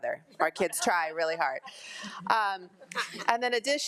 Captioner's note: attendees laugh